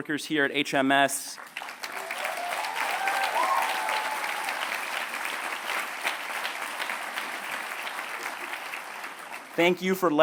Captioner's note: applause